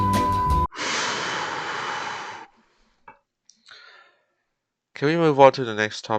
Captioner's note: deep breath